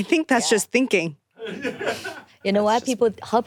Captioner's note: producers laughing